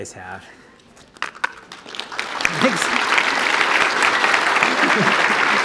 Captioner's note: applause